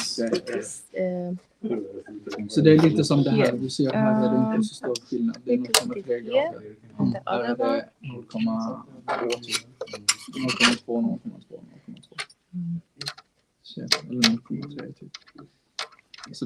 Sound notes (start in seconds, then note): 2.5 non-english speech; 7.9 non-english speech